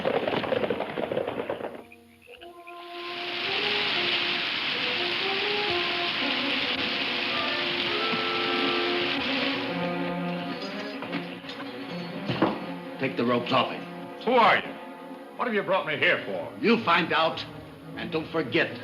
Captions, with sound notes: (water rushing) (tense music) - Take the ropes off him. - Who are you? What have you brought me here for? - You'll find out.